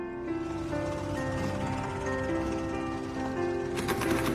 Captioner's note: engine rumbling